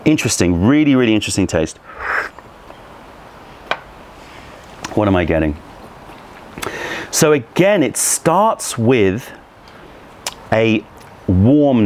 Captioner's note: sips tea